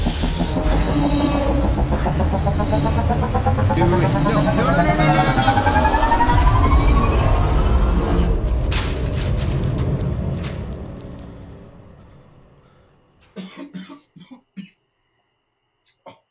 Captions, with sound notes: - Wait, wait, no, no, no, no, no! (dramatic music) (coughing)